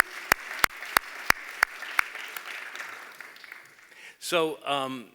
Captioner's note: applause